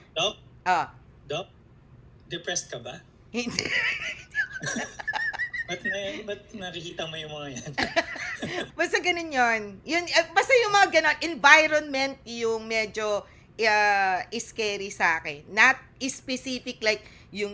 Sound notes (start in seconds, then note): 3.4 laughter; 9.1 laughter